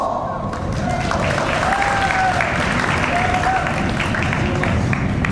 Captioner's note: audience applauds